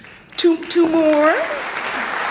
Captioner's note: audience applauding